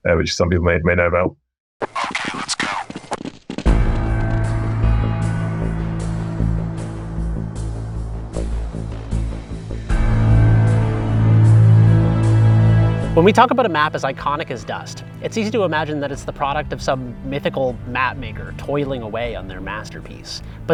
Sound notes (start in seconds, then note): 2.5 footsteps pattering; 3.3 dramatic music